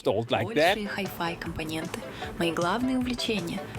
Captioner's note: speaking russian